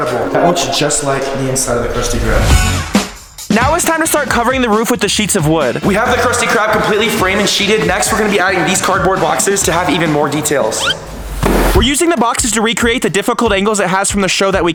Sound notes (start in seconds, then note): 2.6 energetic music; 10.7 whistle blowing